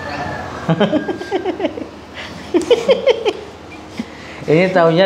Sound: laughs

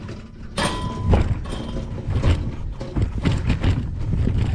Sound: wheels scraping; gate bangs shut

